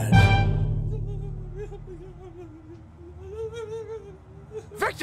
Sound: whimpering

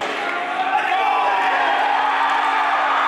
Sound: shouting; cheering

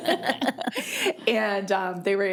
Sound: people laughing

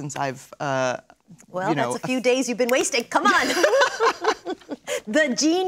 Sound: laughter

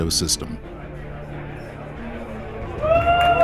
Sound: group murmuring; group cheering and applauding

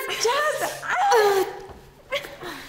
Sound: gasping

